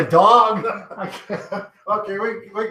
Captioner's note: both chuckling